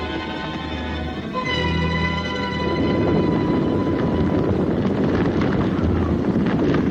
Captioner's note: dramatic music continues; hooves clomping